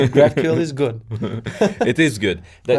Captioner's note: laughs